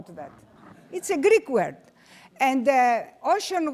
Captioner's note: audience laughing